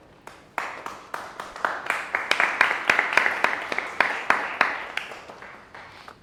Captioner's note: applause